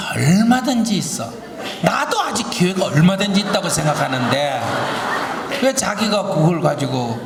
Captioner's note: audience Laughter